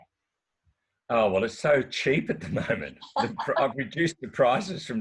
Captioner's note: chuckling